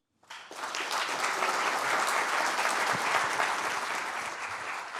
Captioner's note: audience applauding